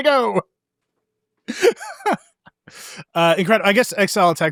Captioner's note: laughing